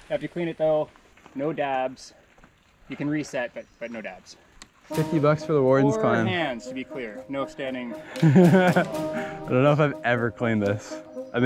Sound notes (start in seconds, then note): 8.0 laughs softly